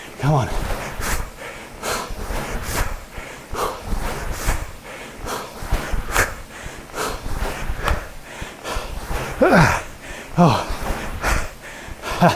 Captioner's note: breathes heavily; grunts